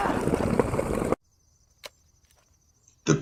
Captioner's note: camera snapshots